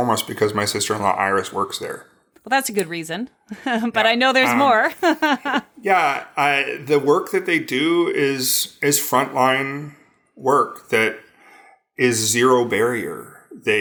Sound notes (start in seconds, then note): 5.5 laughs